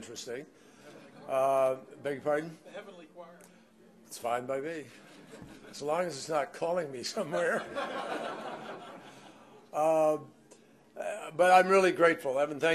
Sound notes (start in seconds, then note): 0.9 laughter; 7.2 laughter